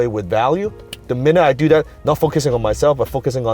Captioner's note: snaps